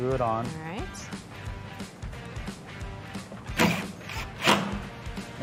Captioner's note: drill whirring